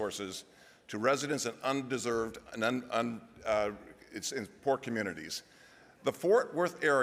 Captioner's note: stammers